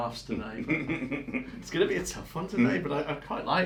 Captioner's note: laughs